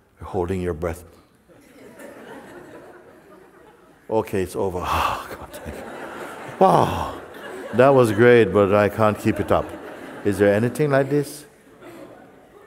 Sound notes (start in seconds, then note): 6.8 exhales